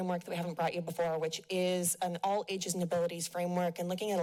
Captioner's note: none